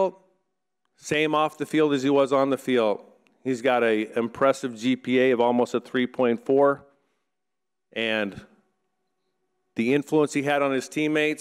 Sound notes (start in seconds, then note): none